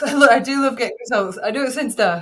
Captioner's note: chuckles